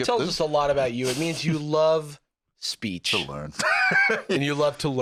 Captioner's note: laughs